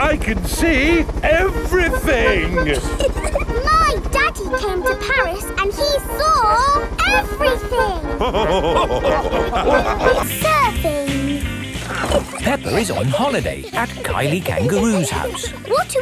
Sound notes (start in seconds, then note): 3.2 chuckles; 8.1 all laughing